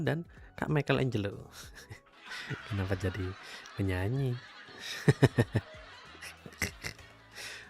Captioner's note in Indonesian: tertawa; tertawa